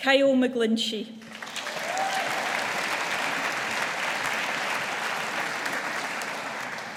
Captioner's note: audience applauding